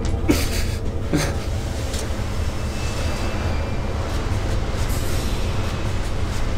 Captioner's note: dramatic music; crying